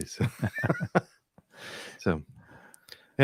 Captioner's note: laughing